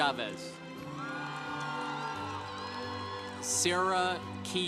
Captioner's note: congregation applauding